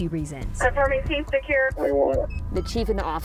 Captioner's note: police radio